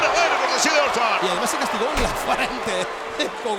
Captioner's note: laugh